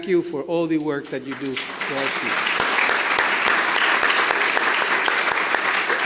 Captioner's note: clapping